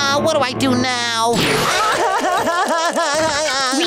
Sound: crying

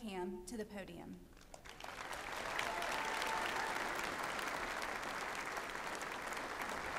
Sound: applause

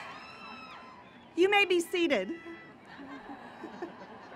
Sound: laughter

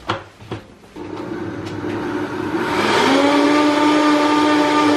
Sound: blender whirring loudly

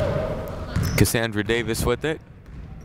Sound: none

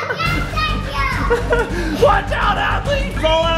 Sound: laughing

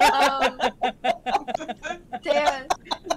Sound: laughter

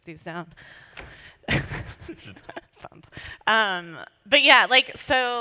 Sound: laughs

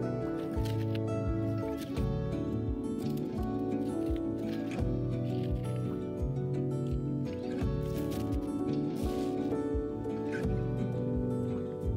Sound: scraping sounds

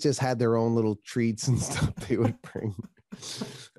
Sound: laughter

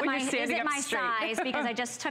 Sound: laughter

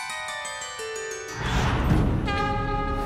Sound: conch blows

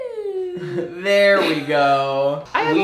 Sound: pat

